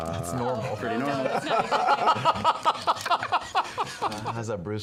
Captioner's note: laughter